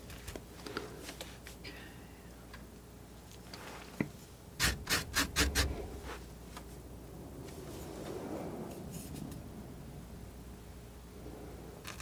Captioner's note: scratching